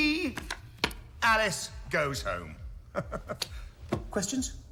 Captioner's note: laughs